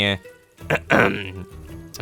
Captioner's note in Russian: Кх-кхм